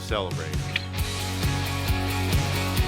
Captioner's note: clicks